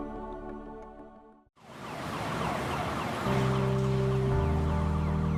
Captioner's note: police siren wails